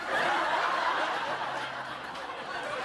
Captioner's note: laughter